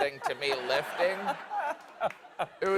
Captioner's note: laughter